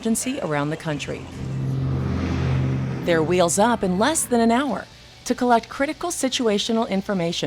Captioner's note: plane engine